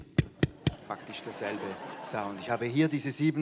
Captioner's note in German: Klopfen